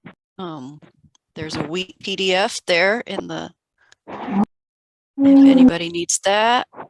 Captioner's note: audio distorts